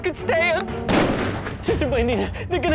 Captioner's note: gunshot